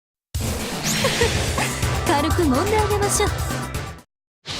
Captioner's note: giggle